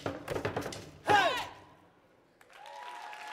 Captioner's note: shouting; audience applauding